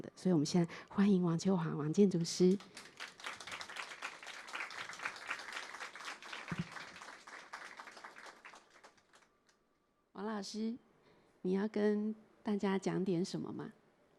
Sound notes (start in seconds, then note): 5.6 applause; 10.8 Mandarin